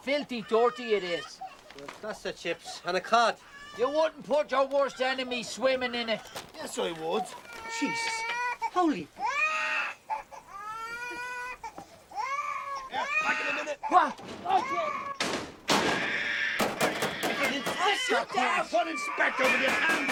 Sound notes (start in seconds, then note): 7.3 Continúa el chillido; 14.4 gemidos; 15.2 Golpes